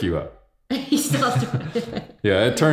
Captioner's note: laughing